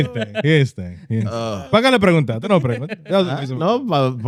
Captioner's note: speaking In Foreign Language